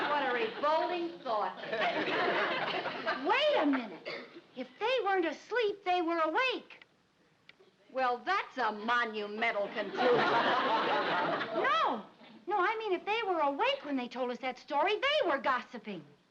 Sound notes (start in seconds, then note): 2.0 audience laughs; 9.6 audience laughs